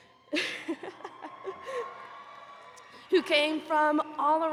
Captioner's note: attendees cheering